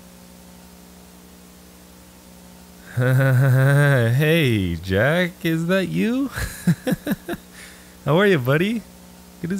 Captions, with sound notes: (chuckles nervously) Hey, Jack. Is that you? (chuckles) How are you, buddy?